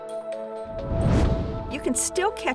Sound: whoosh

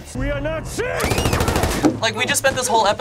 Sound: gunshots fire; Sarah screams

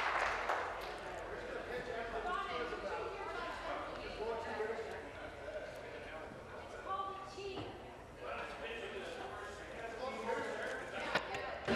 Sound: applause

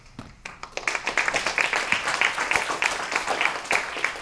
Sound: applause

